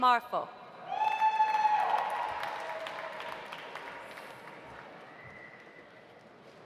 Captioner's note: audience cheering; audience applauding